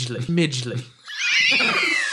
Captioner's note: wheezes demonically